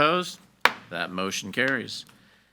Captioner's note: gavel bangs